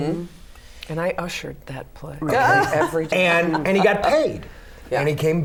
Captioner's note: laughter